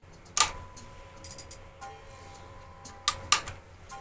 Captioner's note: clicking